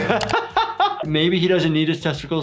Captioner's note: laughs